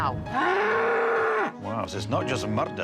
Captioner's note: moo